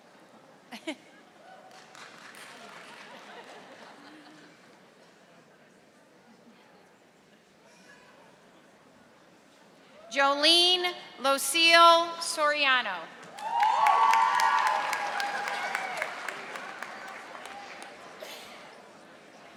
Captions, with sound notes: Jolene Lucille Soriano. (audience applauding)